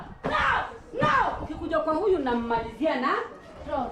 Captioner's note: speaking in non-English